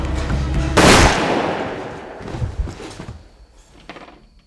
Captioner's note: gun blasting